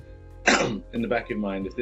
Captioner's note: coughs